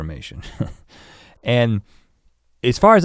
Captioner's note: chuckles